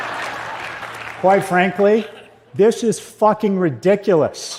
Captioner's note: صدای خنده